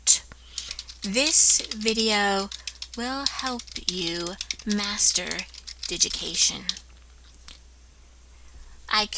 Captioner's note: typing